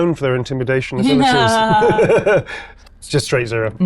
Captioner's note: both laugh